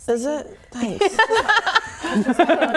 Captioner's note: laughing